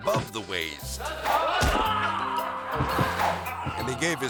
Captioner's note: student groaning